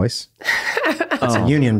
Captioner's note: laughs